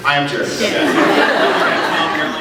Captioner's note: laughs